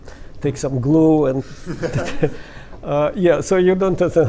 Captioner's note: laughter